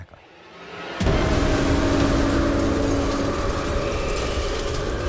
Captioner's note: wind whirling